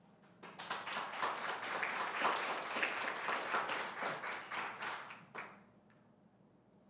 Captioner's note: applause